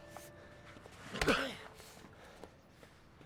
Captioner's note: grunts